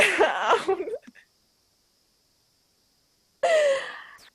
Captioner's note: laughs